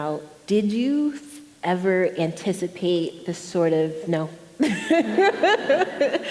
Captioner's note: laughs